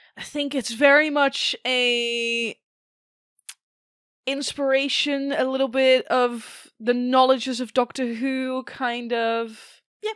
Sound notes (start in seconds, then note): none